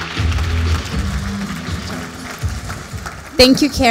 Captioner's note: applause